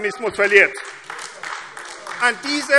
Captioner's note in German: Beifall AfD